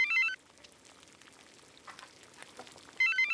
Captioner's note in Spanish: Suena el teléfono